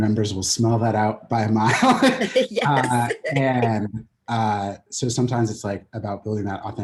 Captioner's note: laughs